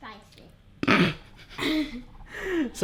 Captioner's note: snorts